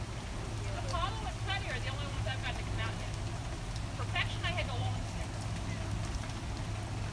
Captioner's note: rain